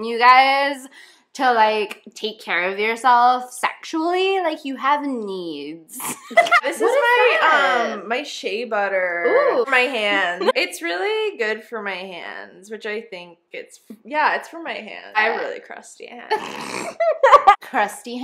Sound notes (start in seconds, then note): 6.1 both die laughing; 16.6 erupts into laughter